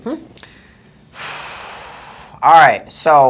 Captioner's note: sighs